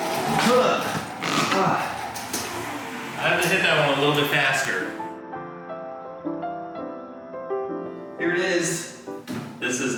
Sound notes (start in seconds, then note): 1.4 grunting; 5.4 relaxed music